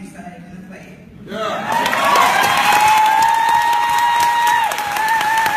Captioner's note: wooting, hollering, clapping